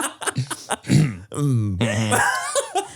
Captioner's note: all laugh; Manny laughs; clears throat